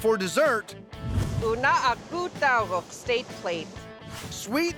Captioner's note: speaking yupik